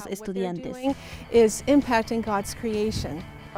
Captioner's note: Hablando idioma extranjero